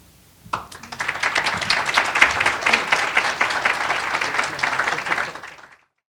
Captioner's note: applause